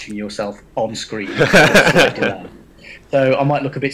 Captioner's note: audience laughs